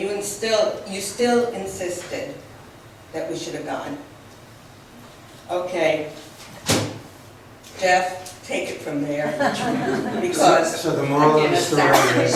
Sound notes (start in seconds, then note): 6.6 bangs podium